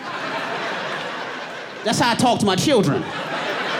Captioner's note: audience laughing